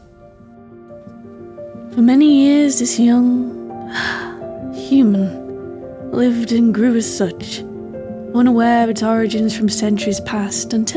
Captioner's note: sigh